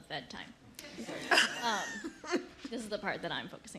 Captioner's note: laughter